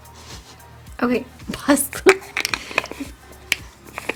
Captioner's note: giggles